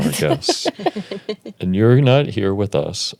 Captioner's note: Elizabeth laughs